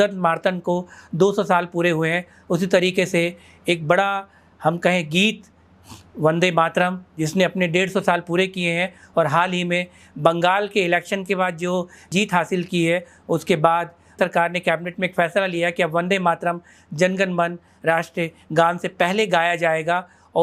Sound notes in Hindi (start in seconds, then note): 5.7 नाक से की जाने वाली आवाज़